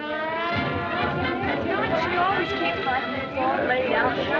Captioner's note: chattering